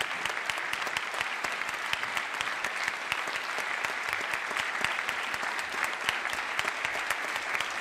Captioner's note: applause